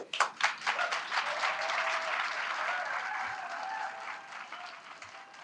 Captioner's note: applause